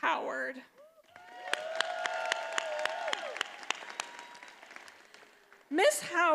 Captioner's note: attendees applauding and cheering